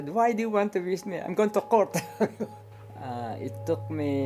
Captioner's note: laughs